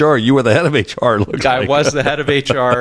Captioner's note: laugh